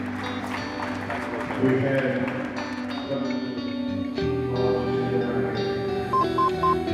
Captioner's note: announcer talking; monitor beeps